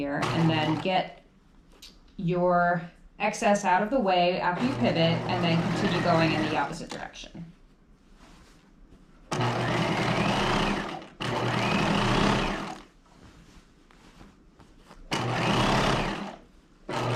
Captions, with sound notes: and then get your excess out of the way after you pivot and then continue going in the opposite direction. (sewing machine whirring)